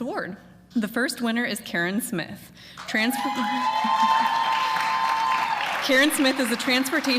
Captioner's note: applause